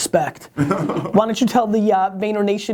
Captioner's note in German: Lacht